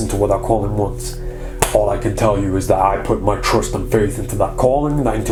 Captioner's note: clapping